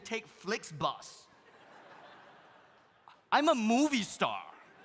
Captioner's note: audience laughs